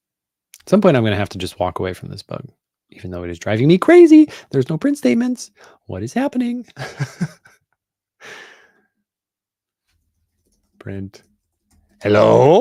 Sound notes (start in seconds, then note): 6.7 chuckles